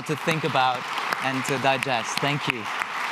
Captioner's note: audience applauding